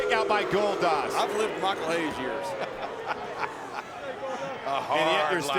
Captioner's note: laughs